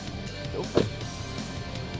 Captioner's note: door thuds